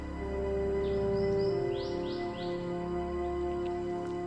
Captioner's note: birds chirping